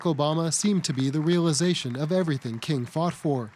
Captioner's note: applause